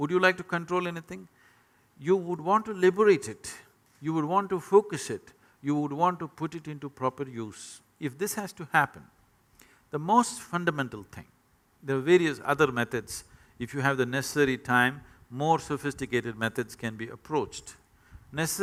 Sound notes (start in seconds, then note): none